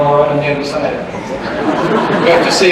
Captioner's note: laughter